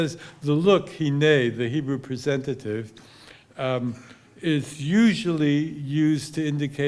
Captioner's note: hebrew